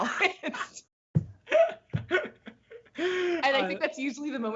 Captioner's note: laughs